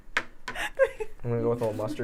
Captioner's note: laughing